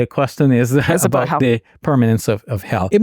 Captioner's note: speaking in Arabic